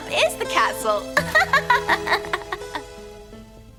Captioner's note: laughs